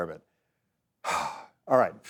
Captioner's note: exhales heavily